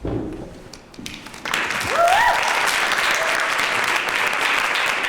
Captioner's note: applause